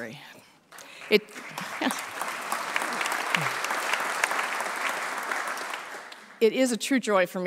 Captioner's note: applause